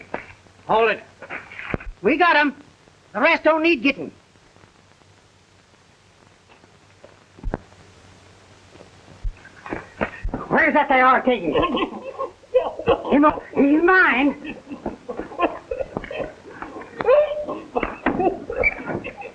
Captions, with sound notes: Hold it. We got 'em. The rest don't need getting. Where's that there Ortego? (muffled sobbing) He's mine.